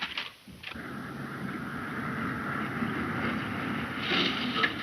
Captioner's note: engine puttering